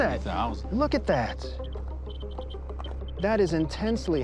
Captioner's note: chirping continues